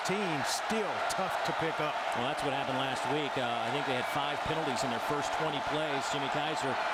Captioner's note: crowd noise